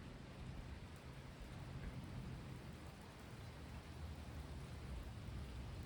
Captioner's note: gentle rainfall and distant thunder